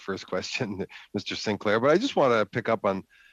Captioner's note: speaking French